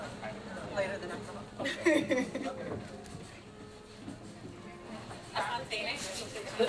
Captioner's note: laughs